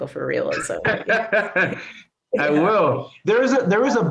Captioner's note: laughs